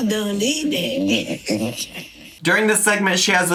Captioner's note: laughs